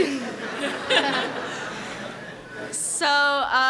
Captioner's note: laughs